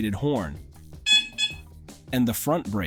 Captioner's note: horn Sound